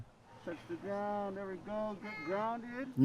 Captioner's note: speaking English softly